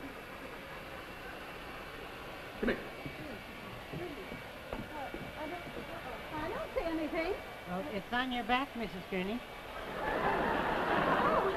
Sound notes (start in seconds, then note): 2.9 footsteps; 9.8 audience laughs